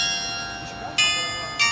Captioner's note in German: glocke